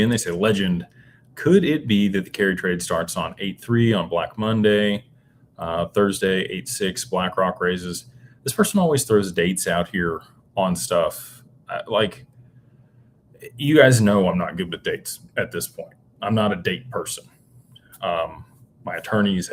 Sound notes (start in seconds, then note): none